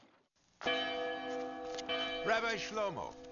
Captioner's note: bell rings